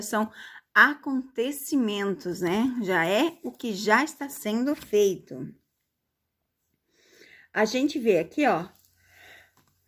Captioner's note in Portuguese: suspirando